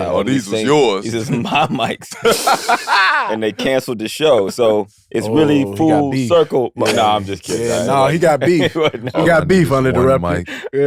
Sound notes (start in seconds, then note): 1.1 laughing